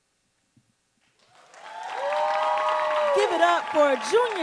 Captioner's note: audience cheering and applauding